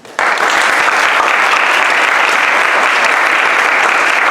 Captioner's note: audience applauds